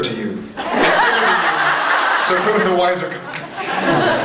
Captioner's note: laughing; laughs; scattered laughs